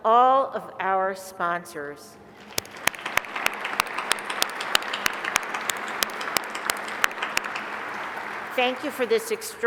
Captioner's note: applause